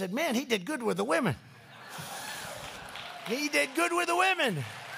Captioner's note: laughter and applause